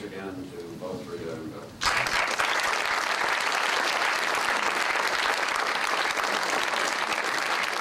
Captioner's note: applause